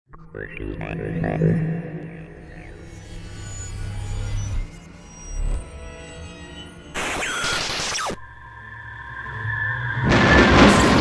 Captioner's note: sound Effects